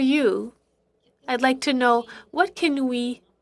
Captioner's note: speaking French